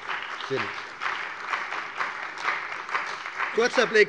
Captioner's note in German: Beifall bei der CDU und dem BÜNDNIS 90/DIE GRÜNEN